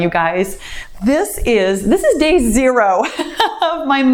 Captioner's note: laughs